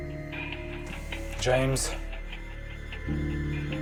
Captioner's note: sighs